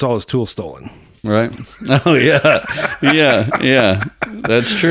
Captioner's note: laughs